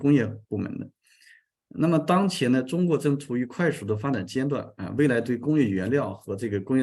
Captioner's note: continues to speak in Chinese